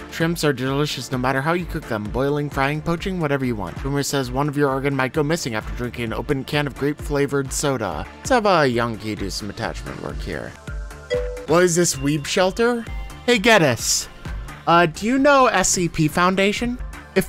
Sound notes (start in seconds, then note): 11.1 dings